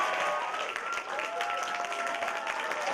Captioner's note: applause continues